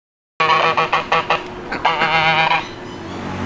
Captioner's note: Goose chattering